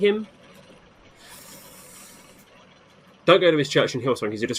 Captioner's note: sucks teeth